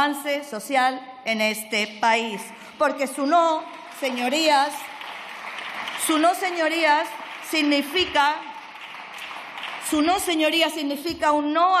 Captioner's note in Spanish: aplausos